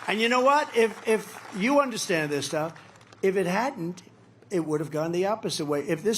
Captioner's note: applause